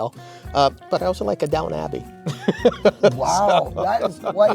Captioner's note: laughs